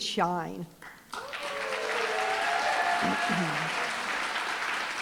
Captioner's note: applause, cheering